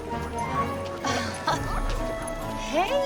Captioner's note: Cassie laughs